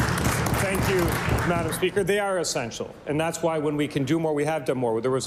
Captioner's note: applause